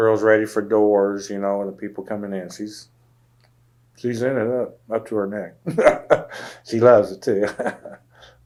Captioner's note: laughs